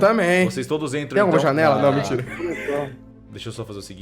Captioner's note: laughs